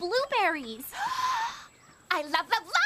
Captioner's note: Sadie Gasp